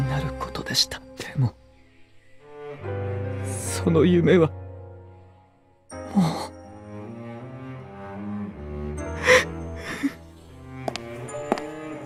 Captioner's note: cries